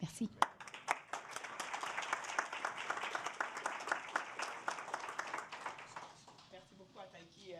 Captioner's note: applause